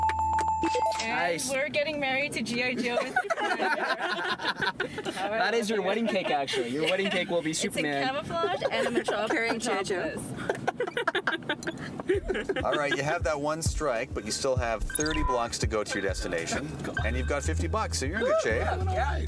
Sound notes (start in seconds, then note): 2.7 laughing; 8.2 laughing